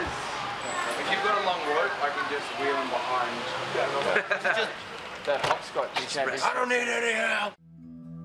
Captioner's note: laughter